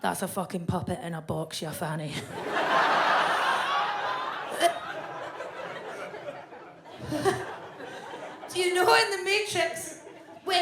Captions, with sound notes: that's a fucking puppet in a box, you fanny." (audience laughs) (Fern gags) Do you know in "The Matrix,"